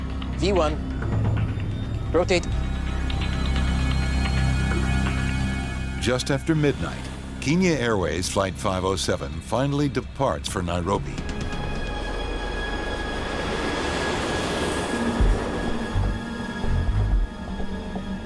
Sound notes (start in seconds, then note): 3.5 sinister music; 10.7 airplane engine roaring; 11.6 sinister music